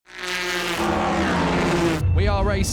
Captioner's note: engine sounds